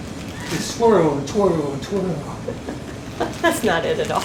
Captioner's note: she laughs